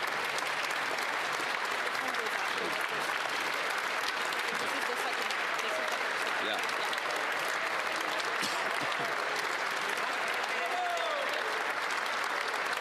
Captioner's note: applause